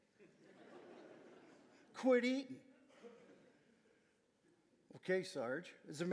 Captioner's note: audience laughing